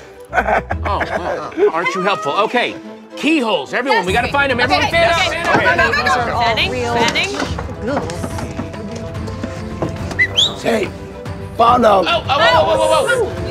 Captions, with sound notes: (laughs) Oh, come on... Aren't you helpful? Okay... Keyholes, everyone, we gotta find them... Everyone fan out! Go, go, go, go, go! (whistles) Hey! Found them! Whoa, whoa, whoa, whoa